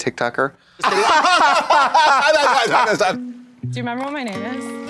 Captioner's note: blonde Women bray